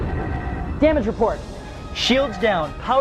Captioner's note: explosion